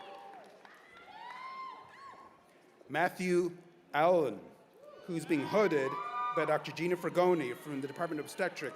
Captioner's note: cheers and applause